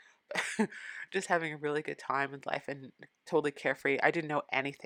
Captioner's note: laugh